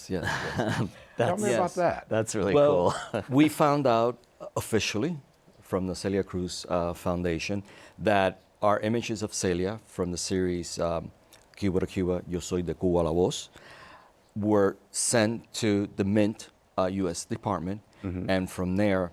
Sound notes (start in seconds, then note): 12.9 speaks Spanish